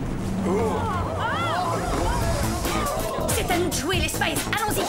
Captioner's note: oohs and ahs